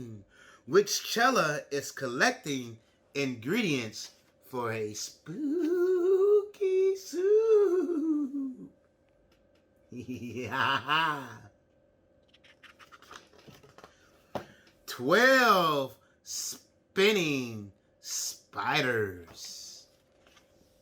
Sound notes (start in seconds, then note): 9.9 creepily laughs